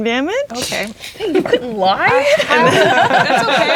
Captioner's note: players laughing